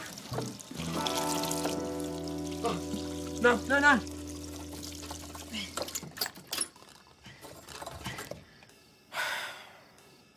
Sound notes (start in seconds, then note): 5.2 exhales; 9.1 sighs